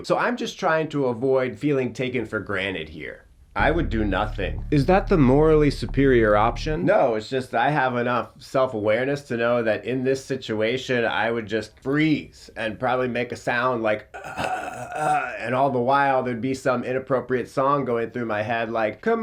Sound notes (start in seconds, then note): 14.1 gurgles